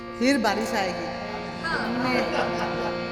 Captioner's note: laughs